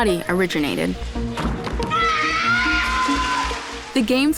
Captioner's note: screaming